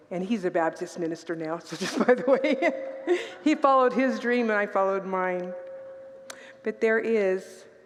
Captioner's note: laughs